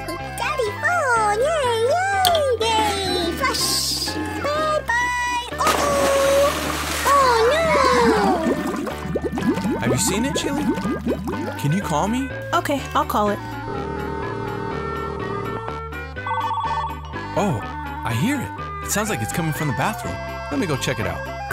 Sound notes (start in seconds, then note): 13.5 dial tone; 16.1 phone ringing